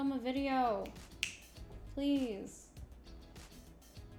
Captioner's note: snaps fingers